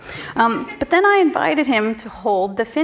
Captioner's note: audience laughing